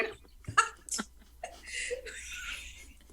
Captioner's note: laughs